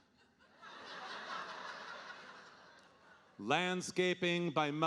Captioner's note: audience laughing